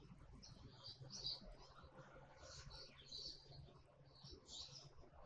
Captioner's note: birds chirping